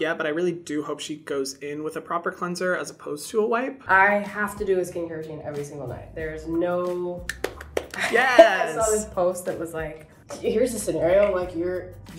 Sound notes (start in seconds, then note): 7.2 Hyram clapping; 7.9 laughing